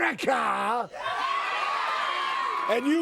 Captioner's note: crowd cheers